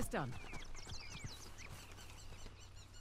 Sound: birds chirping

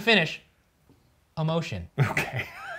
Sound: laughs

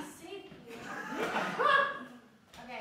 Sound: laughter

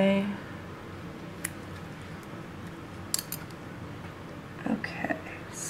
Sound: scissor-clipping noises

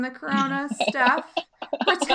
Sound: laughing

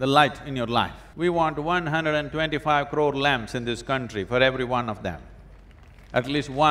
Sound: applause

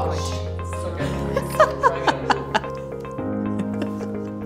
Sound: laughing

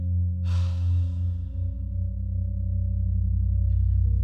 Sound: Jeweler sighing

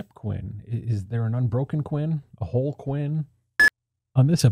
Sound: beep

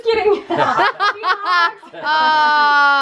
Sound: laughing

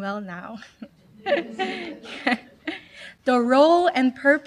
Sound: laughter

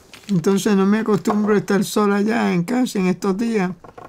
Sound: Spanish

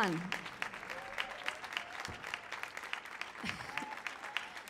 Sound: audience applauds

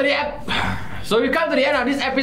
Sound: grunts

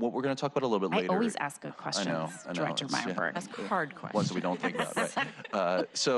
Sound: laughter

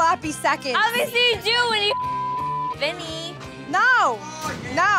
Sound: beep

